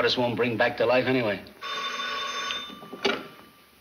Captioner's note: phone rings